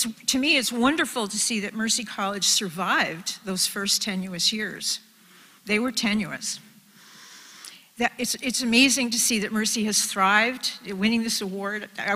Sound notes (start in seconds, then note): none